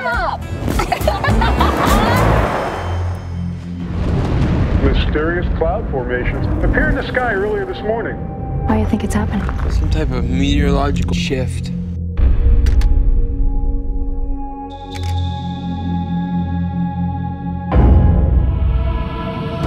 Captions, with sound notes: Shut up! [both girls laughing] [Radio broadcast] Mysterious cloud formations appeared in the sky earlier this morning... Why do you think it's happening? Some type of meteorological shift. [Camera clicks]